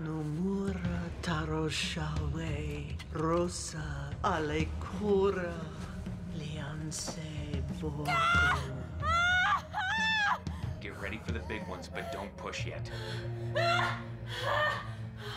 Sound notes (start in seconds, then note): 0.3 chanting in foreign language; 9.0 screaming; 13.5 screaming